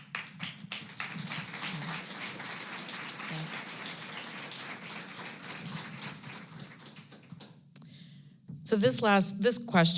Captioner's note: applause